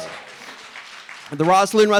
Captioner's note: audience applauding